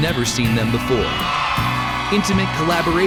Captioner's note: audience cheering